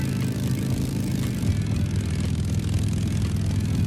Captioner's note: engine rumbling